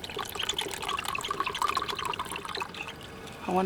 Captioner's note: glug glug glug